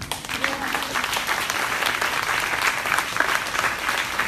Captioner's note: crowd applauding